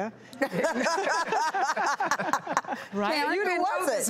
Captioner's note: laughter